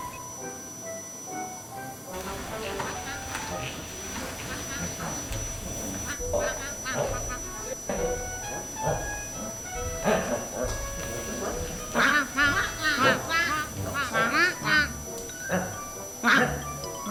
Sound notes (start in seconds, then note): 2.8 Duck vacuuming the floor loudly